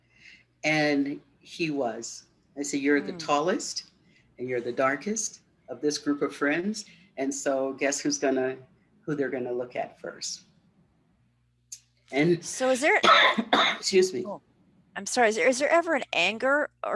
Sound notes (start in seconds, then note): 13.0 coughing